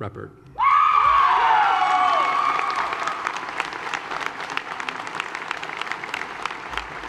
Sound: raucous applause

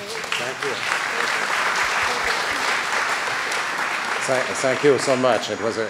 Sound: applause

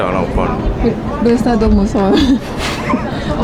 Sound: laughing

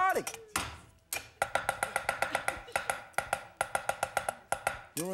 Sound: loud, fast chopping

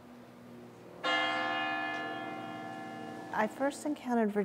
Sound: church bells ring

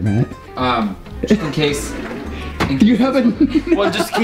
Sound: laughs

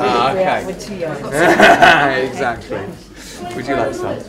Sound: LAUGHS, Exactly!

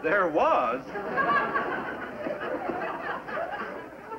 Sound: laughter

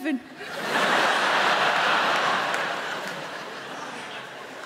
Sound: crowd laughing

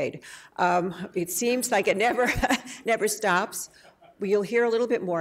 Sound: laughs

